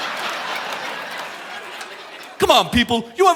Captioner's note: audience laughing